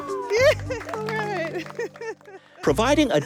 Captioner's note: applause